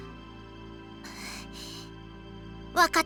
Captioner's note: breath